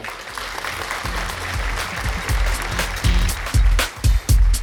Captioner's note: audience applause